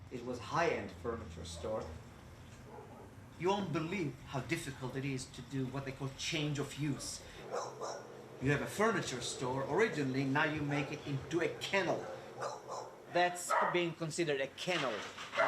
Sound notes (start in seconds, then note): 7.4 dog barks